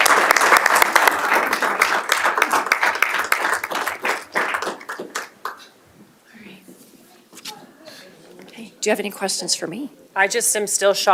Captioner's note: applause